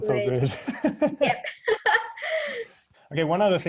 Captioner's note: laughing